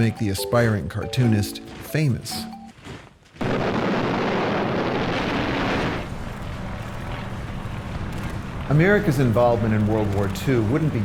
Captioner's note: sounds of war